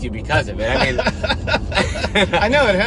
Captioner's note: laughing